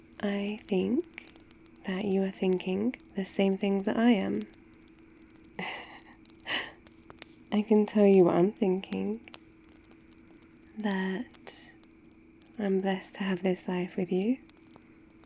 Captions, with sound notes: I think that you are thinking the same things that I am *laughs* I can tell you what I'M thinking that... I'm blessed to have this life with you